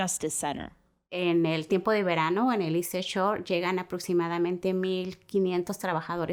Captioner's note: speaking Spanish